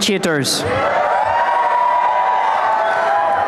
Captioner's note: applause and cheering